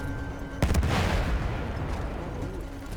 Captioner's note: gun fires